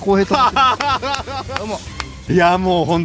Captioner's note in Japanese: 笑い